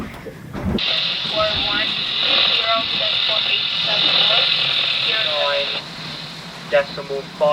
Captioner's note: Coast Guard calling signals on radio indistinctly